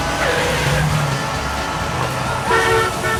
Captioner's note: car screeches; car honking